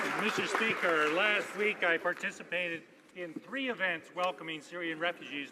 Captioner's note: applause